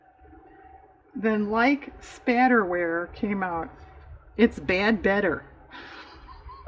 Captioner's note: laughs